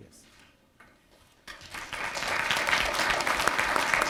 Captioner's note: applause